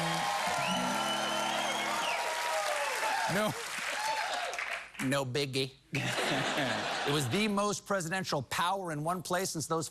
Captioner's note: cheers and applause